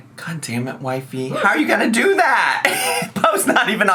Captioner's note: laughs